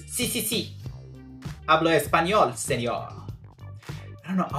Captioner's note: in Spanish